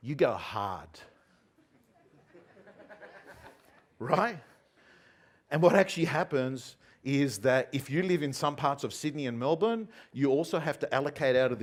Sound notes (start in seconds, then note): 1.8 audience laughing